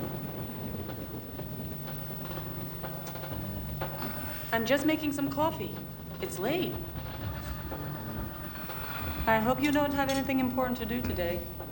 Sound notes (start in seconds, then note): 3.8 grunts sleepily